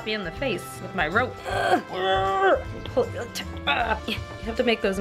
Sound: makes some struggling noises

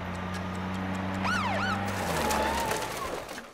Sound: siren chirps

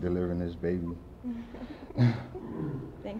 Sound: parents chuckle

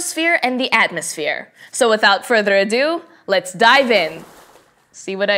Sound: water splashes

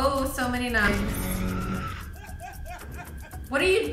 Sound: softly screaming and crying

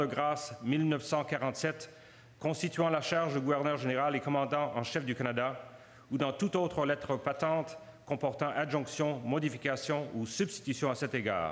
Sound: speaking French

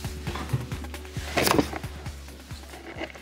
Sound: camera falls over

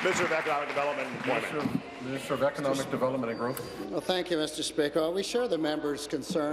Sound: applause

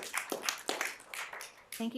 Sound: cheering and applause

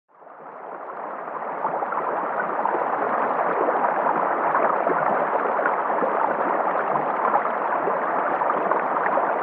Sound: creek sounds

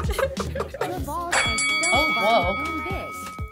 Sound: laughs; bell rings

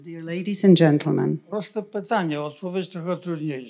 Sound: foreign language

